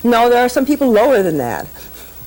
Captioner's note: laughs